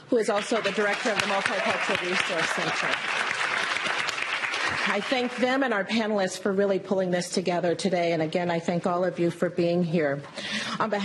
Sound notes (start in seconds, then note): 2.9 applause